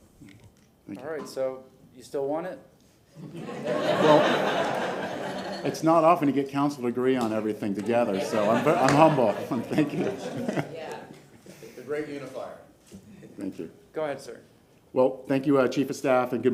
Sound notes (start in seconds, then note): 9.8 laughter